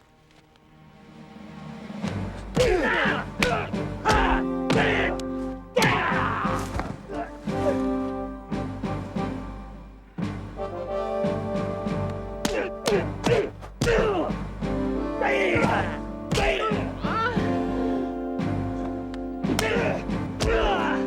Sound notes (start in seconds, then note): 0.0 yelling; 0.3 dramatic music; 6.5 thudding; 7.8 grunting; 12.8 groaning; 16.2 yelling